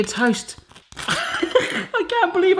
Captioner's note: he laughs